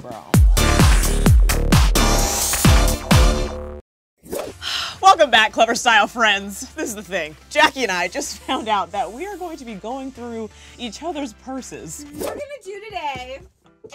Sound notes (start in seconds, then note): 0.1 upbeat techno music; 4.2 air whooshes; 5.1 sighs; 12.0 air whooshes